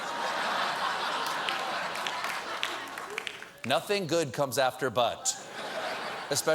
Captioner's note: laughter